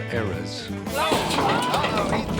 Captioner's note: clattering